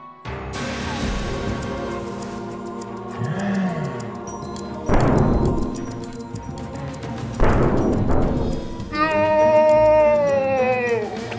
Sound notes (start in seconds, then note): 0.3 dramatic music; 2.8 slow-mo gasp; 8.4 slow-mo voice